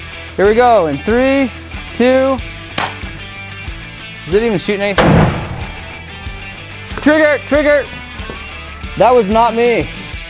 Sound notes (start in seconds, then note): 2.8 crack; 5.0 explosion